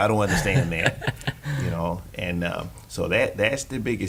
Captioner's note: laughing